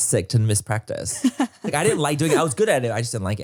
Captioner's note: laughs